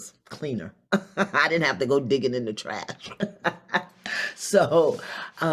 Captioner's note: laughs